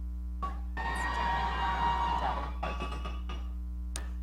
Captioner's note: audience cheering